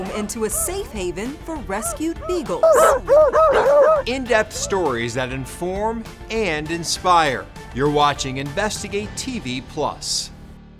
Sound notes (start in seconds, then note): 3.3 dogs barking